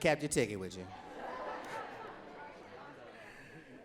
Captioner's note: laughing